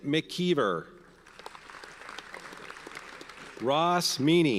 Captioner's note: audience applauds